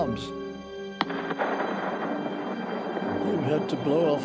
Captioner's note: explosion echoes